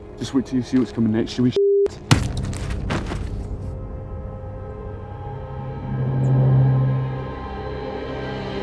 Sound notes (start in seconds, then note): 1.9 bashing; 3.6 dramatic orchestral music